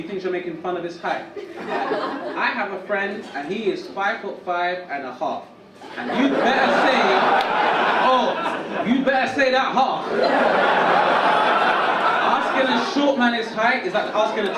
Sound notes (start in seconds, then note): 5.8 audience laugh